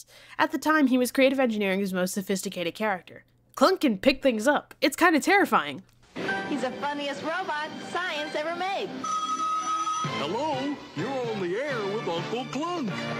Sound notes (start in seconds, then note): 9.0 phone rings